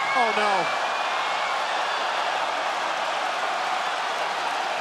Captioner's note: spectators cheering